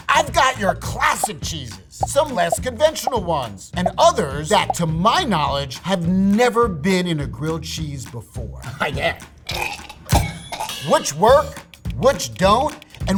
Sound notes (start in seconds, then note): 2.0 cheese popping; 9.9 coughing